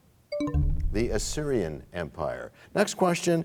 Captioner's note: bell chimes, time expires